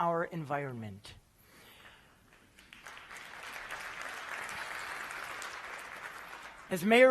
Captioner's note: applause